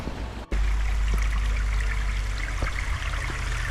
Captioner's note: babbling brook